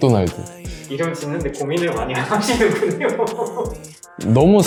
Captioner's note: laugh